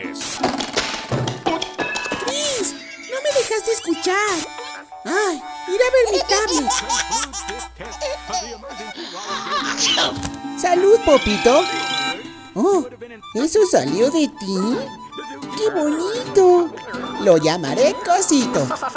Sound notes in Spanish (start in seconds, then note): 2.2 Continúan sonidos cartoon; 5.8 Risa de bebé; 9.5 Estornudo